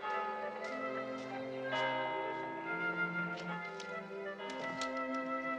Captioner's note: clock chimes